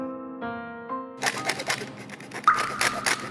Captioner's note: scrape scraping scrapped